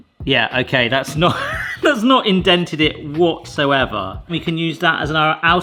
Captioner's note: laughs